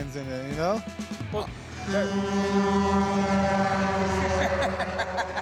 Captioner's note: truck horn blares; laughs